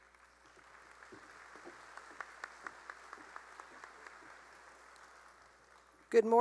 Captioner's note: applause